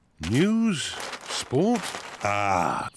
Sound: none

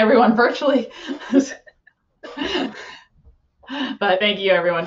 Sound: laughs

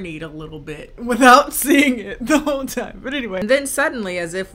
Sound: laughs

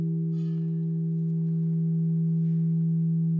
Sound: the tone fades away

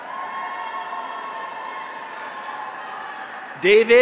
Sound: graduates cheer; audience applauds

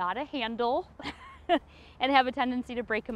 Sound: laughs

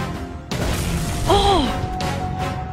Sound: scream

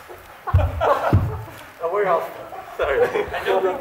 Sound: laughing; all laughing

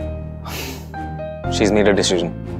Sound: exhales

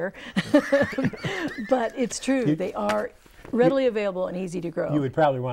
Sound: laughing

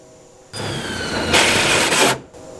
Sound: drilling

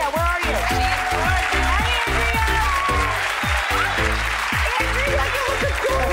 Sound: crowd applauding; upbeat music

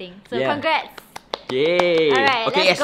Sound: clapping

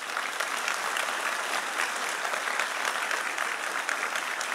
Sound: audience applauding

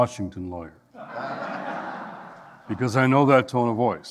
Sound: audience laughing

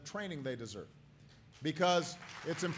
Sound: applause

